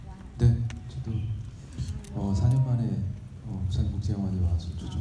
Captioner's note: speaking in foreign language